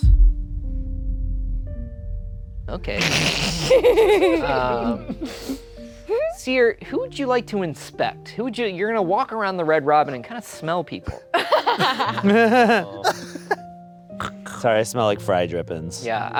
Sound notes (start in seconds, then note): 0.1 light music; 3.0 laughing; 11.3 laughing